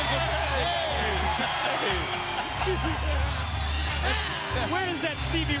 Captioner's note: commentators laugh